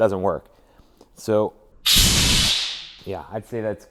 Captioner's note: drill whirring